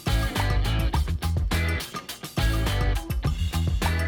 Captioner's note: popping